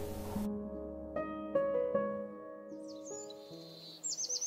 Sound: birdsong

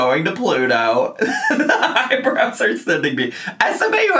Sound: laughs

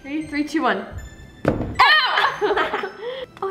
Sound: thud; laughing

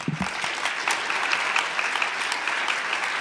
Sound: applause

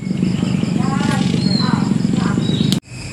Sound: gecko krr sound with lots of background noise

